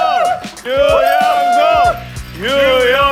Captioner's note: teary